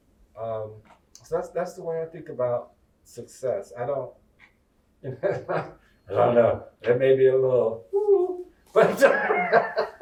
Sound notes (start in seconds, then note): 5.0 chuckles; 8.8 chuckles